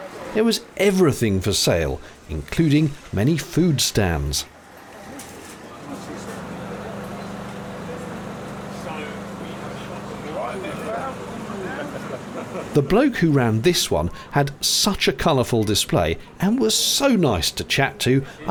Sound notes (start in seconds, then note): 6.6 ambience of people milling plus what sounds like a distant generator